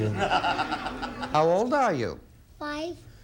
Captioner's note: audience laughing